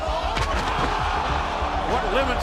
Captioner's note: audience cheering